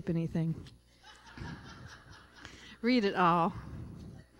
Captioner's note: laughter